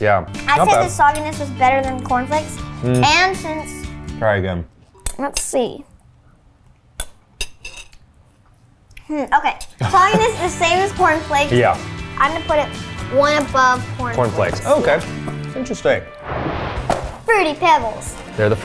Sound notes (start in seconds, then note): 9.8 chuckles; 16.2 animated explosion booming; 16.8 cereal box thudding